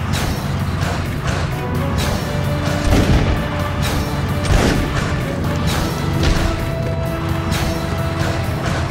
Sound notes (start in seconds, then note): 2.6 gun firing